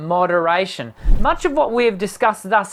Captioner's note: wooshing